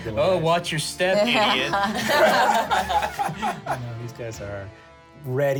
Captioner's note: laughs